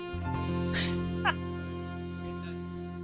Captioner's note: chuckles